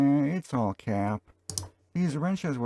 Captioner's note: click